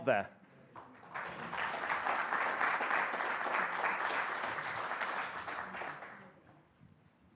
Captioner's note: applause